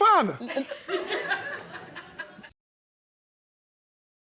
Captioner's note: audience laughing